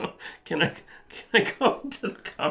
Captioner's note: laughs